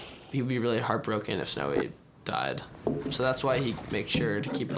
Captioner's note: none